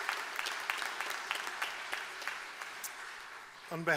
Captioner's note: applause